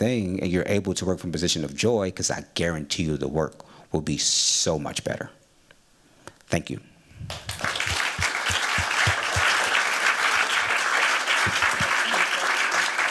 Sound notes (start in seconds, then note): 7.2 applause